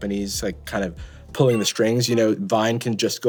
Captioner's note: notification rings